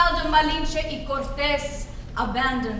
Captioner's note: speaks foreign language